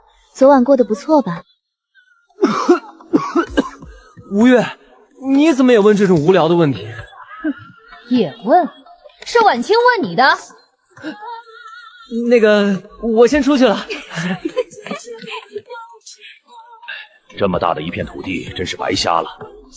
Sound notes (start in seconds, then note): 2.4 ahem